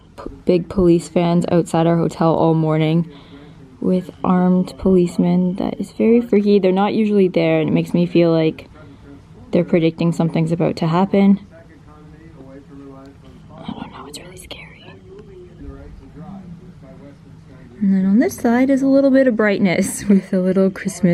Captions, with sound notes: big police fans outside our hotel all morning With armed policemen that is very freaky. They're not usually there. It makes me feel like They're predicting something's about to happen *whispering* I don't know It's very scary And then on this side is a little bit of brightness with the little Christmas